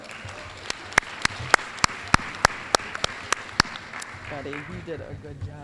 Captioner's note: applause